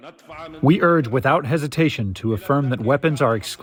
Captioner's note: through translator